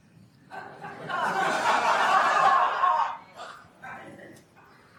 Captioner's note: attendees laughing